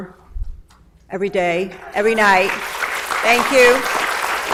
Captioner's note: audience applauds